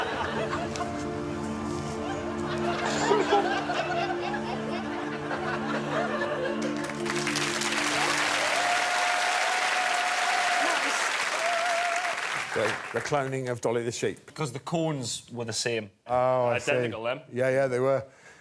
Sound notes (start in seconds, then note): 0.0 dramatic music playing; 6.6 applause